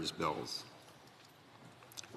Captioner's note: speaking French